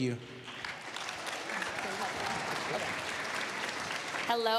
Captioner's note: applause